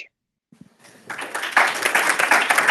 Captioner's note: applause